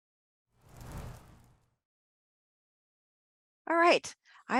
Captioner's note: graphics whoosh